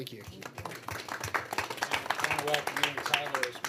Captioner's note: applause